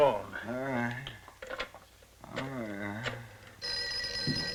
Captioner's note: Zinthrop mumbles; telephone ringing